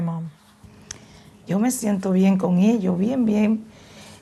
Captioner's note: speaking spanish